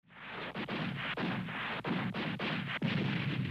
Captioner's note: weapons blasting